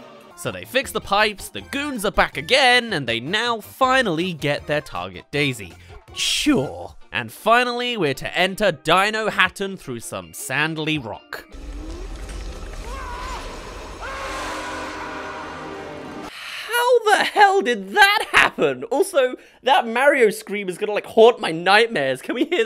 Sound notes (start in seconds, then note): 11.7 scream